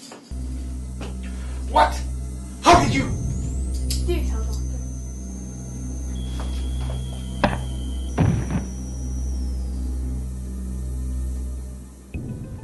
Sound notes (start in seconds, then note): 0.0 chain rattles; 8.2 footsteps, thump, thud of body